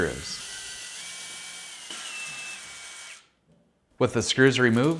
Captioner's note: drill whirring